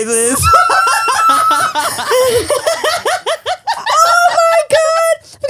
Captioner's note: laughs; screams